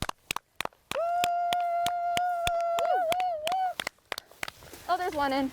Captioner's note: clapping and whooping sounds